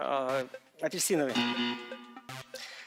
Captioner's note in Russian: пи-пи